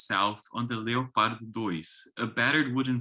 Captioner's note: speaks foreign language